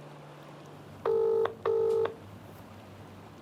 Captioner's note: phone line rings